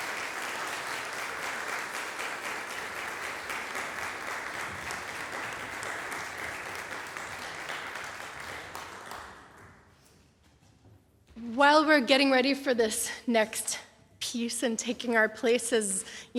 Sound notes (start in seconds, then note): 0.0 applause continues; 3.3 applause fades; 3.3 footsteps and shuffling